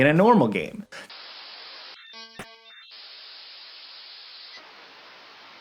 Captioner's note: audio crackling and whining